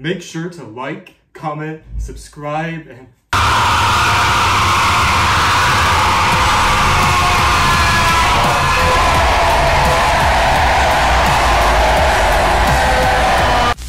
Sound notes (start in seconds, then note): 3.4 screaming; 6.2 screaming + EDM Music